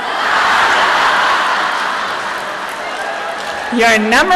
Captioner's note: laughter